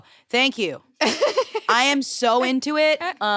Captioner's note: laughs